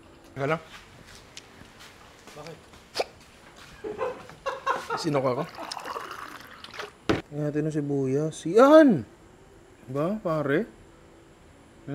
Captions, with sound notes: Let's go. What's the matter? [laughs] I'm having hiccups. Let's get some onion. There we go.